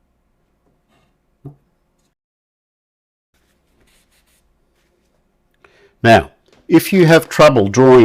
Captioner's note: silence